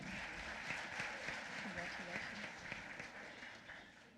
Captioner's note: applause